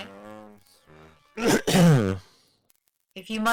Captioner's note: clears his throat